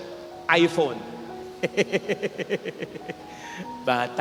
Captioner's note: laughs